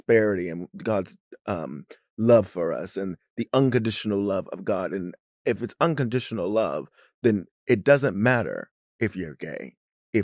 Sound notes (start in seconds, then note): none